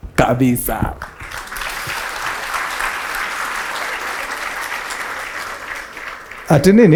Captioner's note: applause